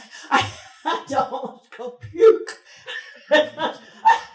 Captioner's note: chuckles